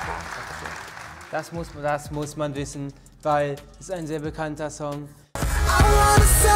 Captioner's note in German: robotisch